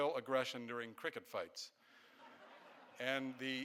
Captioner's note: audience laughing